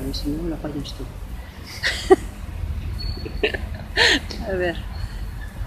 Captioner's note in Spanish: risas